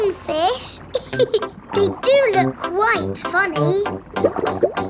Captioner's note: laughs